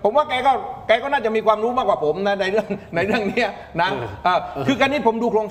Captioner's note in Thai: เสียงหัวเราะ